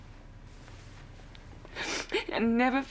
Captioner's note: sniffles